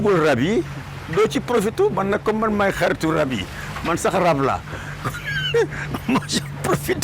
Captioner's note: laughs